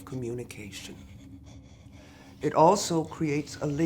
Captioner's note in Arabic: صعوبة في التنفس